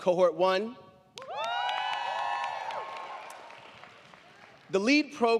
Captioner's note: crowd clapping; crowd cheering